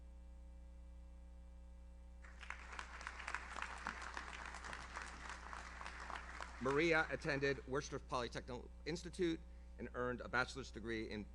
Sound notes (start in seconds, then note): 2.2 audience applauds